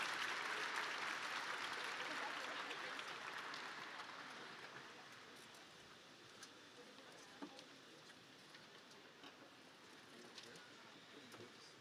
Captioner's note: applause